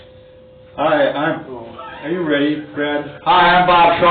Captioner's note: laughs